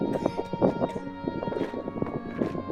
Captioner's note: coughs